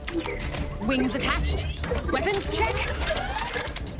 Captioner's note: whirring, clanking